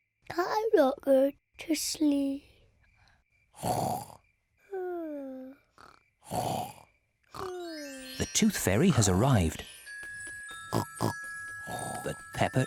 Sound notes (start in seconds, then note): 0.2 sleepily; 3.5 snoring; 6.2 both snoring; 10.7 oinks